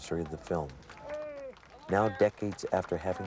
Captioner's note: crowd applauding